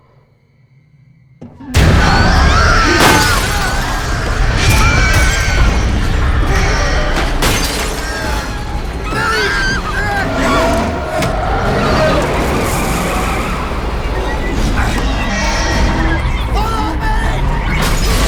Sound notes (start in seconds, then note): 1.8 demon roaring; 1.8 Mattie screaming; 7.5 glass shattering; 11.9 engine revving; 11.9 tires screeching